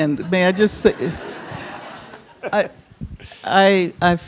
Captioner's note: audience laughing